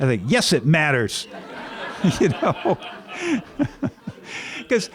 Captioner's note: laughter